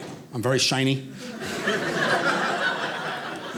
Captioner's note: audience laughing